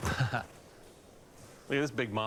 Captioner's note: laughs